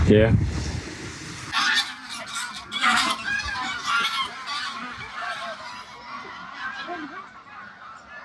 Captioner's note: geese Honking